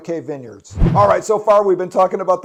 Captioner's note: air whooshing